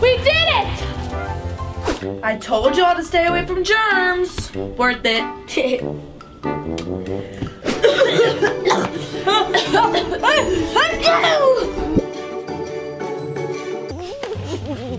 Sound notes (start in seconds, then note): 5.9 chuckles; 7.6 both cough and sneeze; 11.3 energetic music; 14.0 chuckles